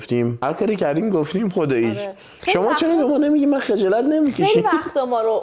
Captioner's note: laughs